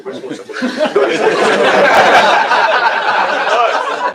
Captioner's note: laughter